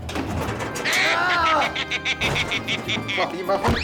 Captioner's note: evil cackling